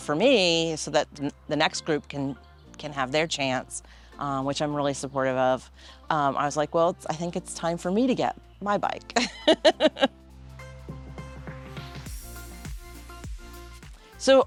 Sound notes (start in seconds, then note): 9.2 laughing; 11.5 mellow music